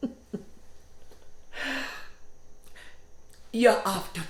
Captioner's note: laughs; insects chittering